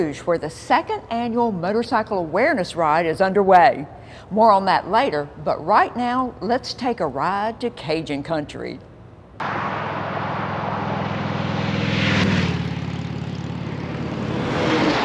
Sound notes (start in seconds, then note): 11.4 engines roaring